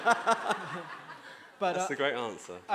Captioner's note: audience laughing